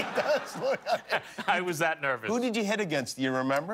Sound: laughter

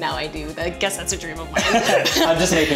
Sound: laughter

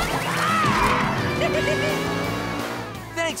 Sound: laughing

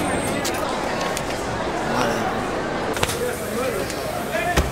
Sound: mixed chatter

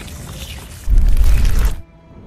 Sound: debri falls

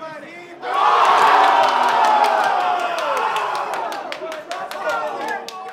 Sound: crowd shouting excitedly

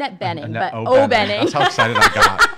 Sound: laughs

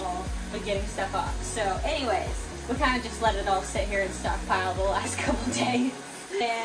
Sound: laughter

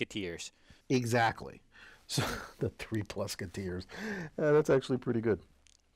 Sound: laugh

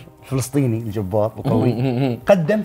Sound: chuckles

